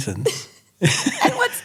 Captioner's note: both chuckles